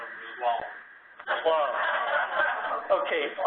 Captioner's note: laugh